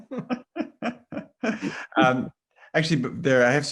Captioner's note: laughs